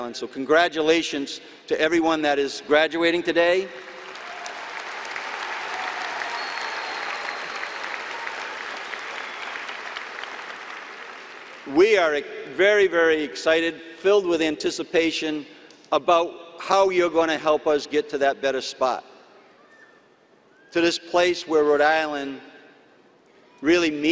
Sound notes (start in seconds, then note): 3.7 applause and cheering